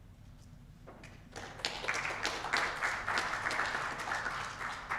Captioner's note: audience clapping